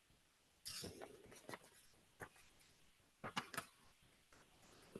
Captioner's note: pages rustling